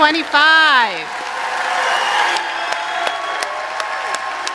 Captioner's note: applause and cheering